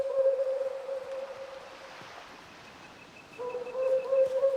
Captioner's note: owl hooting; waves crashing